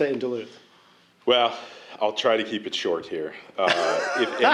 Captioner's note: laughter